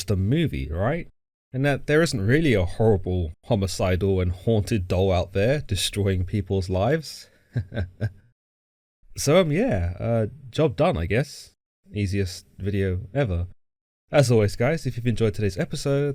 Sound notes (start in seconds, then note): 7.5 nervous laugh